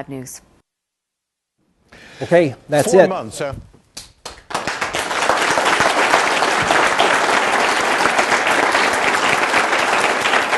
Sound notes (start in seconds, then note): 4.2 applause